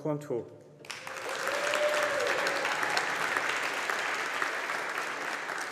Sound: audience applauding

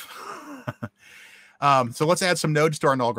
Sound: guy laughs

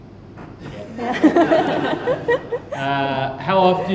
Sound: crowd laughing

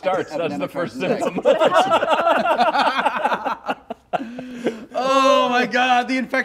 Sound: laughter

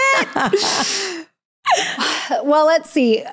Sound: laughs

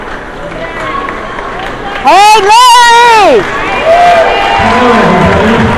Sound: crowd cheers

